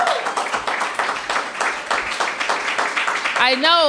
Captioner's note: cheers and applause